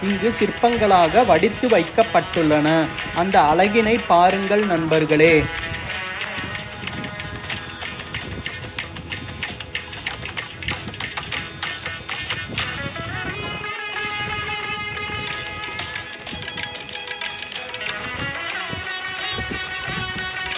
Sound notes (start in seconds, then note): 7.2 clap